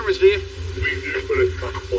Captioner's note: distorted v voice